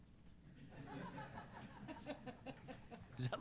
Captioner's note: laughter